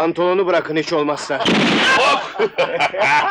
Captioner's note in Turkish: Silah sesi